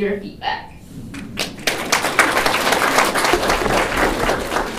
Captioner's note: applause